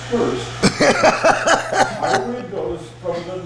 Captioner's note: laughing